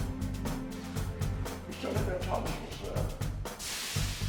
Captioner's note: voiceover